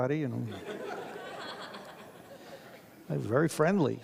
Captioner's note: audience laughs